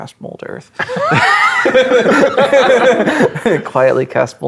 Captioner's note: players laughing